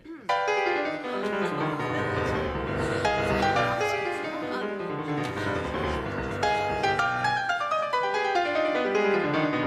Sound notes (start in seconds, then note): 1.1 gasping